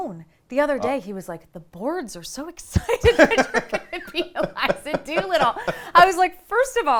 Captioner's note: laughs